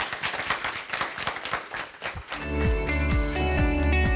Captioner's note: applause; upbeat music